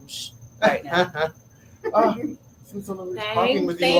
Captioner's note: laugh